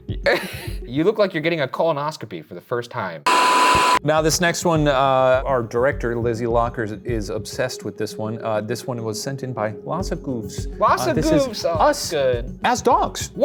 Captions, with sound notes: You look like you're getting a colonoscopy for the first time. (television static) - Now this next one, our director Lizzie Lockard, is obsessed with this one. This one was sent in by Lhasa Goofs. - Lhasa Goofs, that's good. - This is us, as dogs.